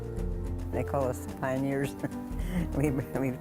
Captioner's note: chuckling